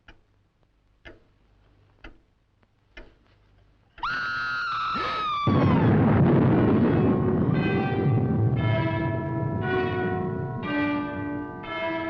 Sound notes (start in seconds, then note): 4.0 Pat screaming; 5.3 Dick gasping; 5.5 dramatic music